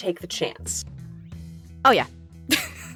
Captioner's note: chuckles